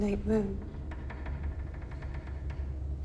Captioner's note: wood creaks